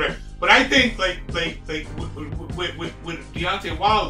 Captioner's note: stutters